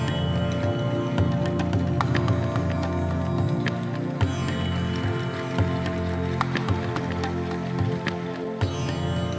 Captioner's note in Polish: Aplauz